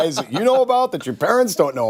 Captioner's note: laughter